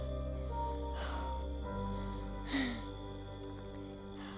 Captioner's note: exhales